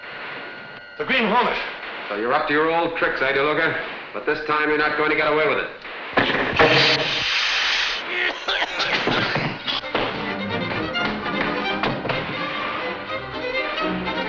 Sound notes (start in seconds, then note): 6.6 gas gun firing; 8.0 men coughing; 9.6 upbeat dramatic music